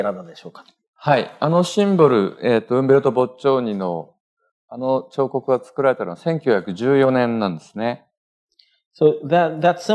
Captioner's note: speaking japanese